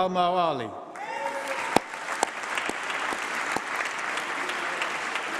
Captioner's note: applause